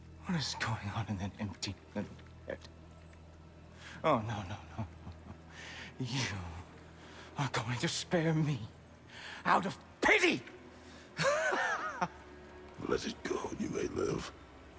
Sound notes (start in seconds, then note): 11.1 laughs